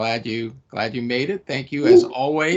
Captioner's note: chuckling